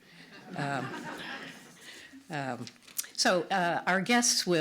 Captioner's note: audience laughs